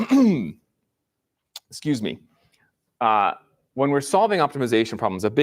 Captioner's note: clears throat